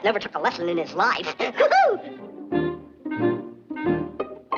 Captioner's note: whooping